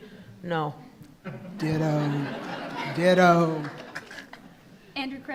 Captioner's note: attendees laughing